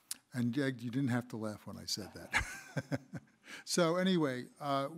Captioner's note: laughs